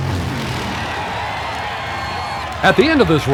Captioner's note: crowd cheers